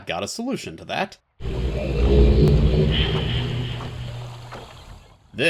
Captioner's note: age transition sound